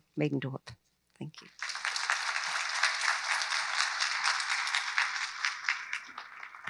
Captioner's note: audience applauds